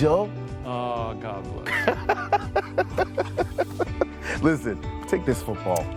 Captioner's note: laughs